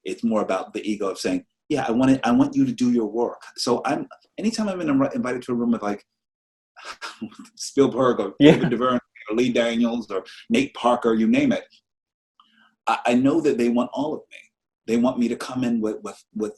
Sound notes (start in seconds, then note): 7.7 laughs loudly